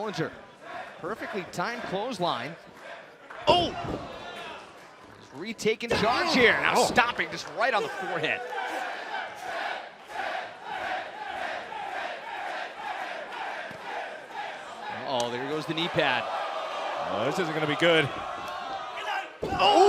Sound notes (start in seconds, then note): 13.0 crowd cheering; 18.1 crowd chatter